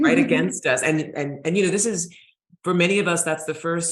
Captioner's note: chuckling